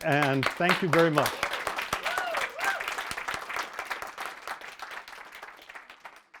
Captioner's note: applause